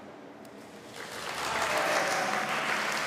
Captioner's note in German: Applaus